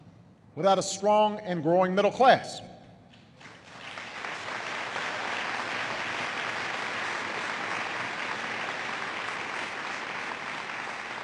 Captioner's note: applause